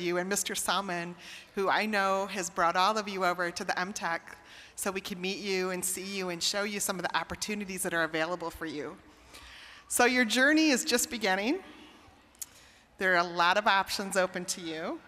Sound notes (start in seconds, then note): none